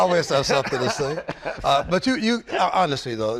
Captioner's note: laughter